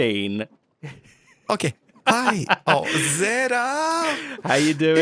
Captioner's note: laughs